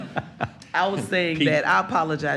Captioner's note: laughter